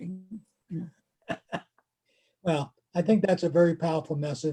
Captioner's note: laughs